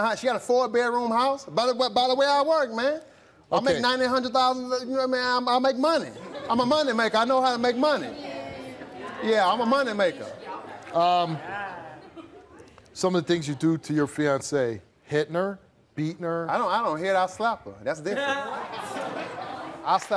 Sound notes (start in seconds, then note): 6.0 audience giggles; 8.5 audience groans; 11.3 audience grumbles; 18.1 audience laughs